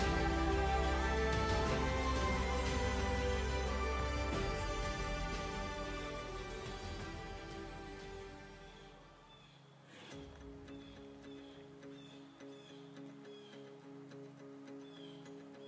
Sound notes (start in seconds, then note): 9.0 birds chirping; 12.3 gentle upbeat music